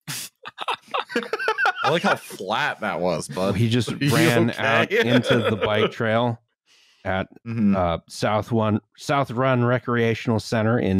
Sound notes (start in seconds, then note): 0.2 laughter; 3.1 laughs